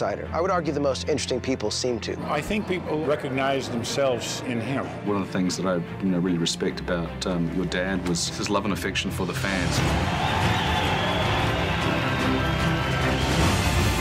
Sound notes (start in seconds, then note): 9.5 cheering